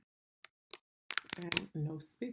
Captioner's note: keyboard clicks